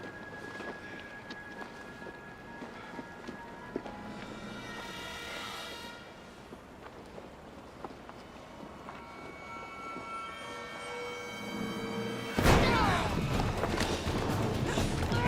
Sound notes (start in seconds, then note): 12.4 pounding